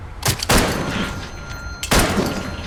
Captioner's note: gunshot